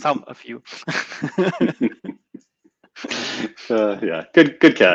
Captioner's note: laugh